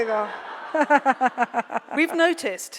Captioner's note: laughs